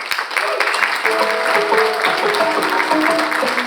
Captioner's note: and audience applauding; bright music